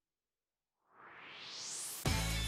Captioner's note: swoosh